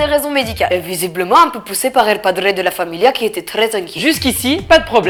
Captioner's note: Italian accent